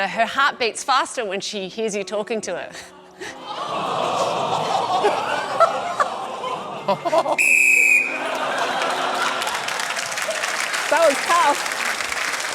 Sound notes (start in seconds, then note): 7.4 blows whistle; 7.8 laughter and applause